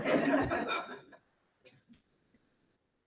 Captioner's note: laughter